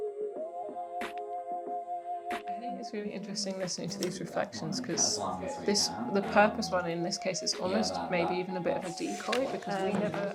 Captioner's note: fade in chatter; fade out chatter